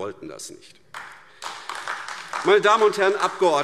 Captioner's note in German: Beifall AfD